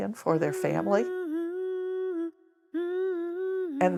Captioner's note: woman humming